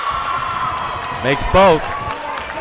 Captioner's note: crowd cheers